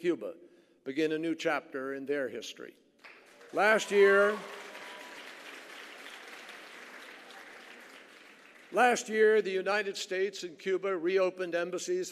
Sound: applause

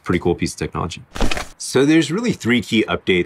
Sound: paper crumpling

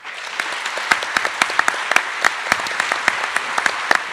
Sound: attendees applauding

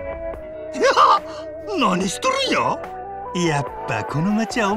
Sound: giggles

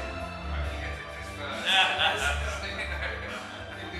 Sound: laughs

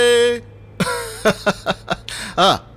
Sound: laughs

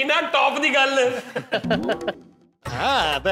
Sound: laughing

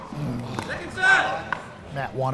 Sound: ball bouncing; groaning

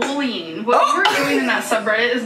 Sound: laughs

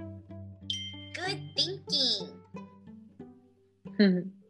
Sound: automated Voice

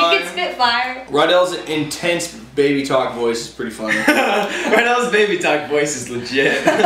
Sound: laughter

